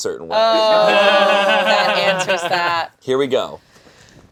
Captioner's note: laughing